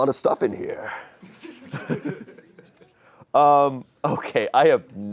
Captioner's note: audience laughing